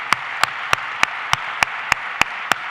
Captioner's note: applause